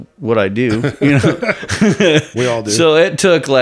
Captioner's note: both men laugh